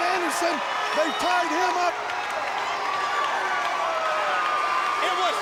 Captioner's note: crowd cheering